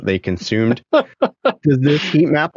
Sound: laughing

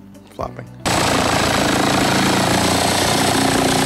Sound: sawing

